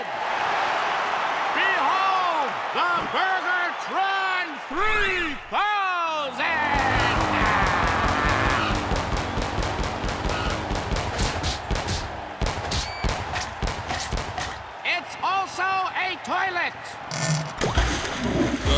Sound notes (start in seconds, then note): 0.1 cheers and applause; 6.7 engine revving, cannon popping; 10.7 smacking; 13.1 chomping; 17.2 fart, plop, flush